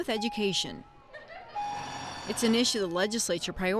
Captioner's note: bell rings